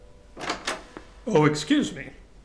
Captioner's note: door opens